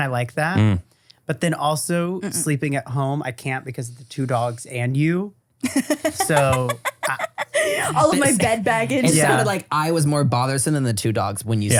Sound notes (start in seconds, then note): 5.6 laughs